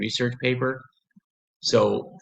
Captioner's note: pause